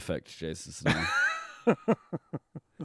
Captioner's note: laughing